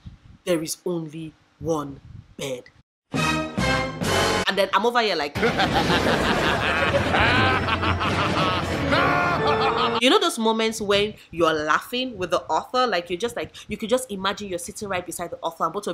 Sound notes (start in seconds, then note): 3.1 dramatic music; 5.3 cackling